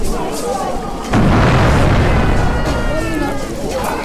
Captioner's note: explosion